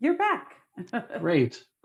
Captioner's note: laughs